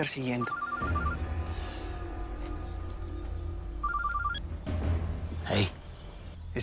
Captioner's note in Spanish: Suena el celular